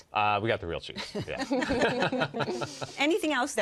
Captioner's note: all laugh